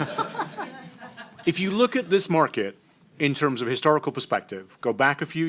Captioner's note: laughter